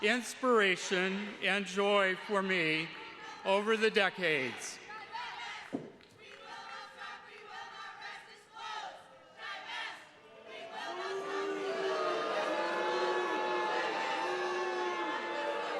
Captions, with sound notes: inspiration, and joy for me over the decades. (protesters chanting) (attendees blurts disapproval)